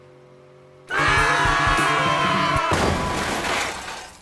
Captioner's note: all scream; crash